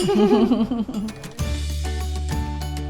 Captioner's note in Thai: เสียงหัวเราะ